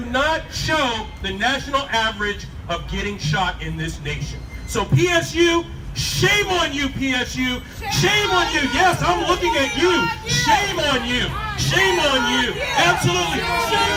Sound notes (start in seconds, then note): 7.8 crowd joins/chants 'shame on you'